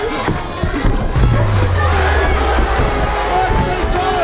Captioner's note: feet thudding